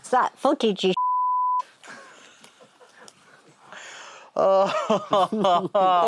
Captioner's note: laughing